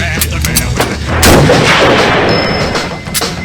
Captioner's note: rock music; weapons loading; gunshot; rock music